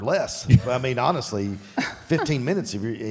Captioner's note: Michelle chuckles